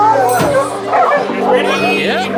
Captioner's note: sound of brake disengaging